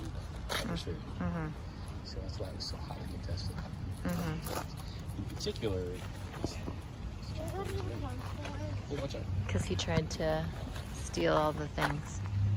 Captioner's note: um hmm